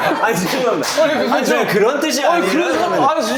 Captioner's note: gulp